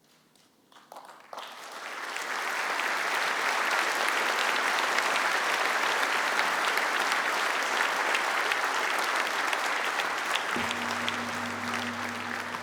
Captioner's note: applause